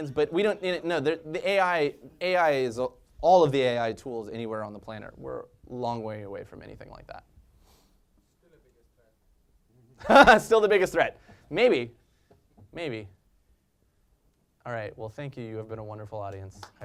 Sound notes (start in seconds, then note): 10.0 laugh